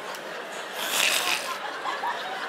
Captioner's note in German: Knurren